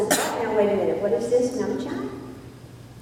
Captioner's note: foreign word spoken